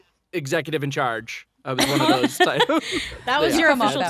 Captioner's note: all laughing